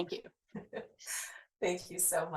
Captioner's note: chuckles